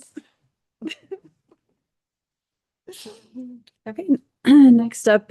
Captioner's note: board members chuckling